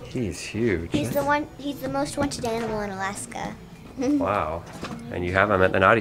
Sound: laughs

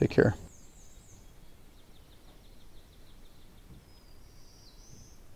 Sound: birds chirping

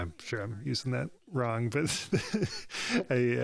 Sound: laughs

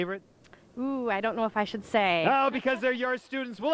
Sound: voiceover

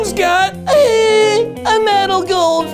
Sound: exclaims

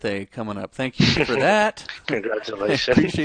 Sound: chuckles

